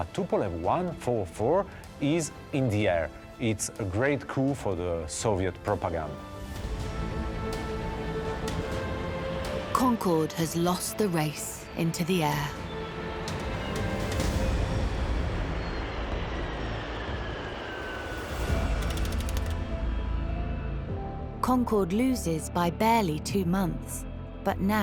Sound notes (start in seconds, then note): 6.8 dramatic music continues; 15.2 jet engine roars; 15.9 dramatic music continues